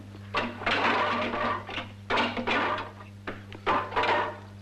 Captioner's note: weapons clattering